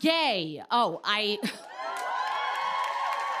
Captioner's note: cheers and applause